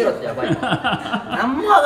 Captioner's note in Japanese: スタッフさんの笑い